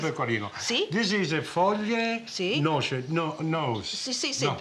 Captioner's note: speaking Italian